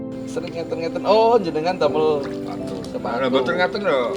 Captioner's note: Speaking Javanese